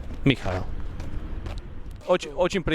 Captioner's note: traffic rumbles